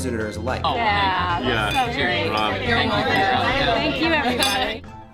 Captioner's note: crowd chattering